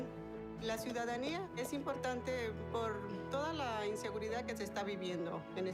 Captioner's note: foreign language speaking